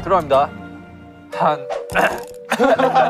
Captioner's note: ahem